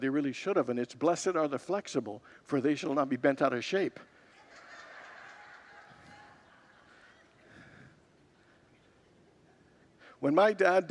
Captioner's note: congregants laugh